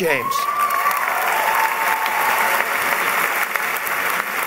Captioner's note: applause